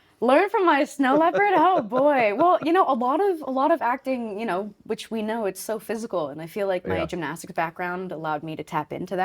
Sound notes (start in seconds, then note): 1.0 laughing